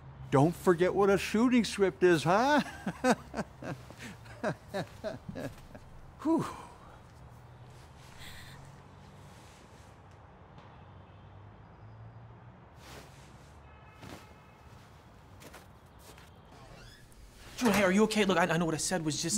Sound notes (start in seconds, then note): 2.1 laughs; 7.8 traffic droning faintly